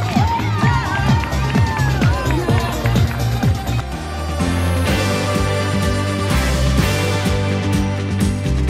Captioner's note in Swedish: Applåder